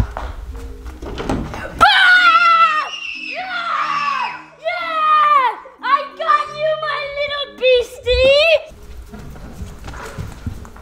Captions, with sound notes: (Screaming) - I got you my little beastie.